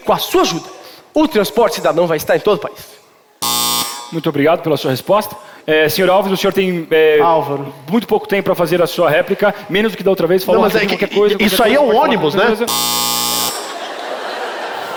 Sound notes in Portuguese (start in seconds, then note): 3.5 campainha; 12.7 campainha